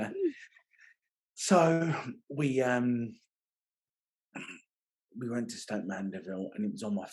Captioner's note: laughing